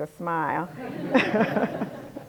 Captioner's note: laughter